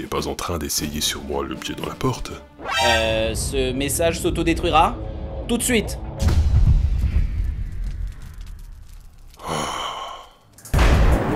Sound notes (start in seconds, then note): 9.3 Gull sighs